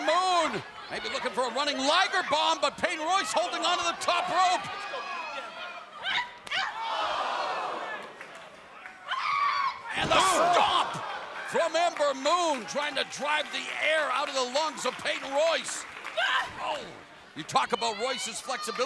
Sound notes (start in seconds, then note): 4.7 crowd chatter